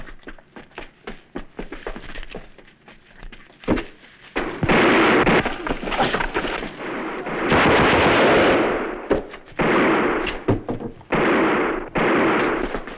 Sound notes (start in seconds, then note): 4.4 gunfire